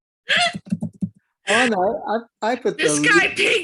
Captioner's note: laughing